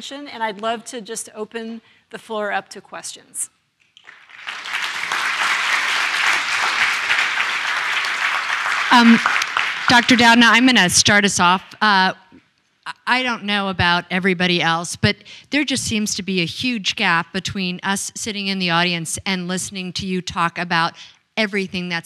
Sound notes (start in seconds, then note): 4.0 applause